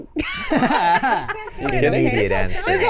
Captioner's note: laughing